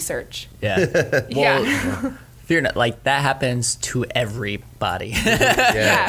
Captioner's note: laughs